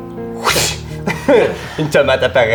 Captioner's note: whoosh